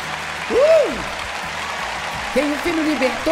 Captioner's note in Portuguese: audiência se alegra